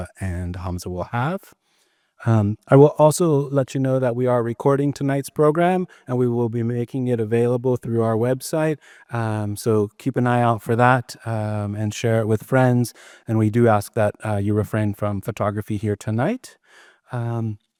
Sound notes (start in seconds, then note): none